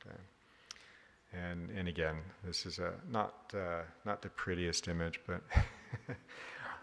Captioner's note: laughs